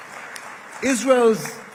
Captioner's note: applause